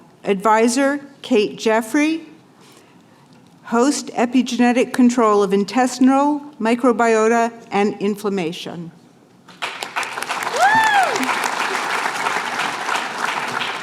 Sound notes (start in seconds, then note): 9.5 applause